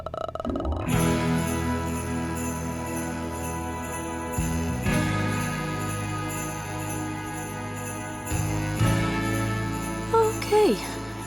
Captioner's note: groans; sleigh bells jingling